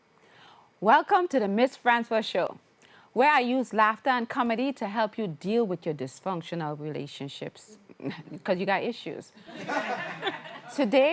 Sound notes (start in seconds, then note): 9.5 crowd Laughing